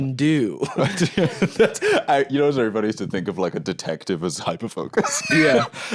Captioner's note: laughs